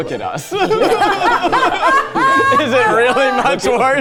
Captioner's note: laughs; laughing